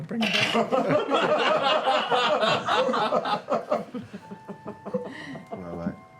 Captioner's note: laughter